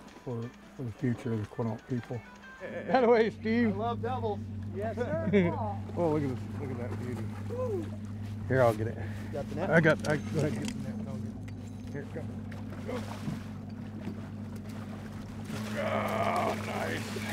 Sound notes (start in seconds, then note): 2.7 boat engine idling; 4.8 chuckling